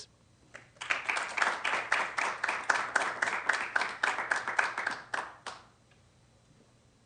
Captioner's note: applause